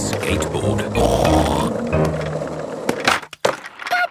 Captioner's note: snorts